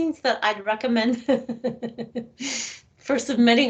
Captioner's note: laughing